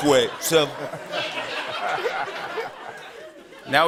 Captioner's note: laughter